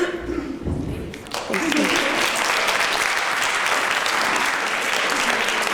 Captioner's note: applause